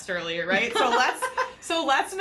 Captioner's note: laughs